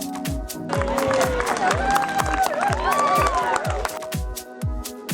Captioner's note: cheers